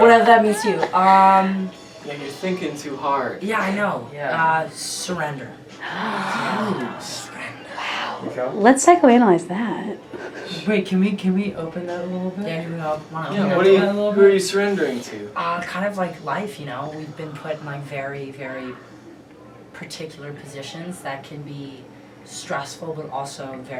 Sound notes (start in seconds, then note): 6.3 gasp